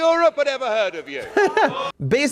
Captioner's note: laughs